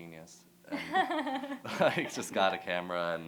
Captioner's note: laughter